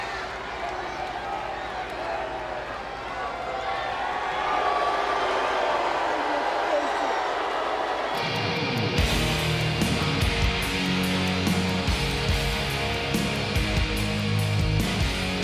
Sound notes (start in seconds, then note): 5.3 audience jeers; 8.3 dramatic music